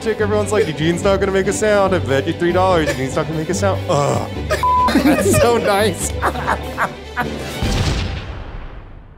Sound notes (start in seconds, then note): 7.0 cackles